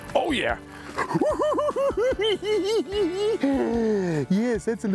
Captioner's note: laughing